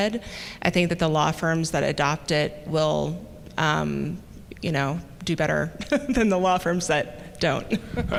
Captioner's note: chuckle